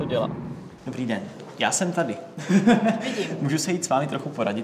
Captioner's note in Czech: smích